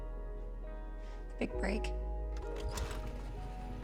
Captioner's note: engine roars